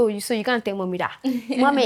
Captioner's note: laughs